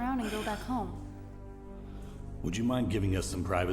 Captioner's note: Kyle sighing